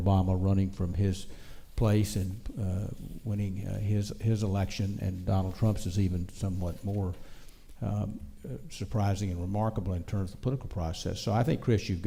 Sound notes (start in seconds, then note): none